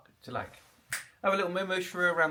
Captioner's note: fingers snap